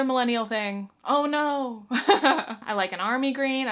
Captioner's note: chuckles